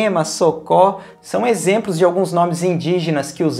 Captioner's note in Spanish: en portugues